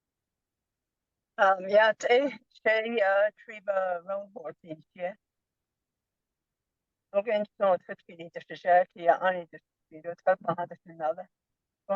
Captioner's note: foreign language